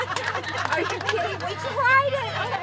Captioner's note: laughter